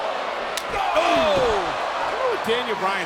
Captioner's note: hand slaps